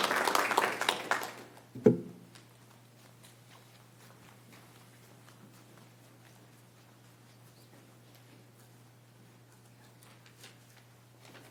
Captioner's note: applause